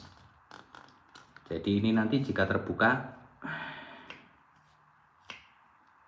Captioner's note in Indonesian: menghela napas